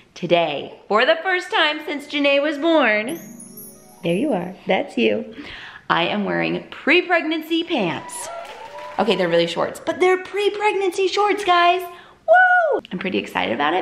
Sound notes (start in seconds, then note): 3.0 magical tones; 7.6 recorded applause